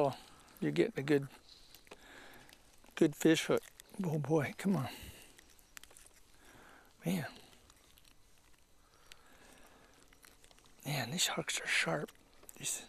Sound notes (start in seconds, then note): none